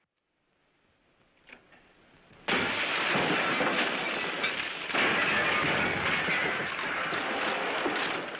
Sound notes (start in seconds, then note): 2.4 crashing